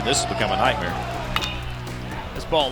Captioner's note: bat hits ball